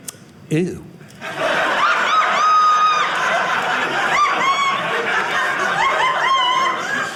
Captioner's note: audience laughing